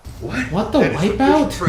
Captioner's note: whack